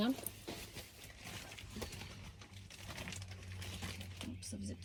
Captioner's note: loud rustling and scrunching noises